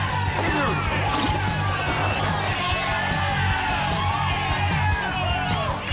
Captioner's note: people cheering; kicks thudding